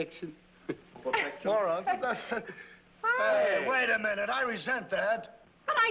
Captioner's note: laughing